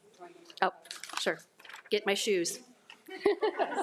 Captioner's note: group laughs; laughs